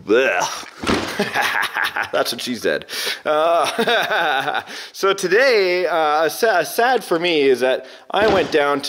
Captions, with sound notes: Ugh. (laughing) That's what she said. So today, sad for me, is that I went down